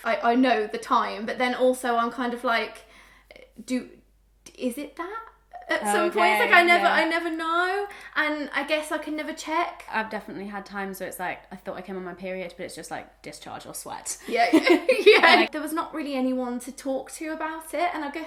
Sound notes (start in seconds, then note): 14.3 laughter